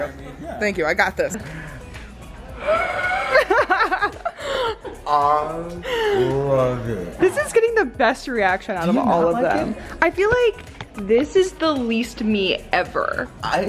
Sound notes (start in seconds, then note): 1.4 gasps; 2.6 laughs